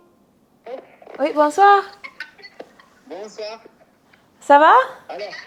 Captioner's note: both speaking in foreign language